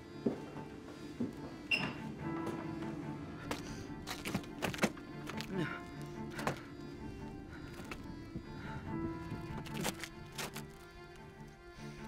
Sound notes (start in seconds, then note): 3.4 feet scraping; 3.4 man gasping; 8.4 tense music continues